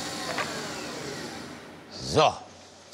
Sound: machine stops

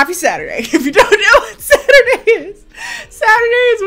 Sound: laughs

